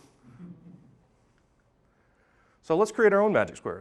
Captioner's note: audience chuckling